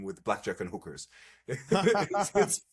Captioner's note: laughs